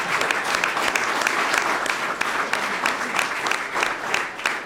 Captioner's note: laughter and applause